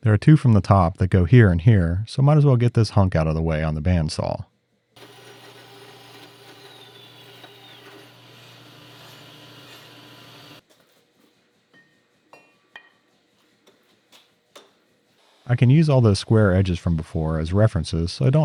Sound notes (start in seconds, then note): 5.0 machine whirring screeching